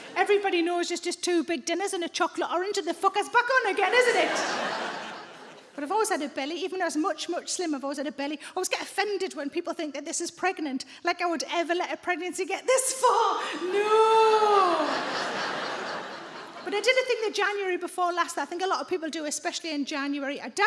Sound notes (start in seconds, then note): 3.8 audience laughs; 14.5 audience laughs